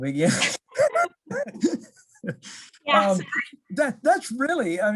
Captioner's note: both laughing